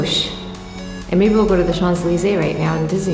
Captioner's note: speaks foreign language